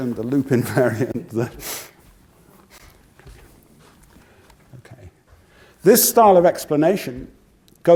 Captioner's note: laugh